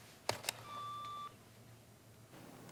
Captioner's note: alarm